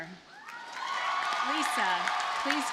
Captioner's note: audience cheers and applauds